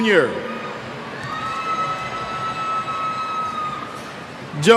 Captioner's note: cheers